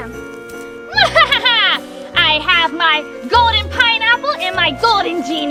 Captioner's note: laughs